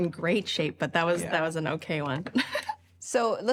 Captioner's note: laughs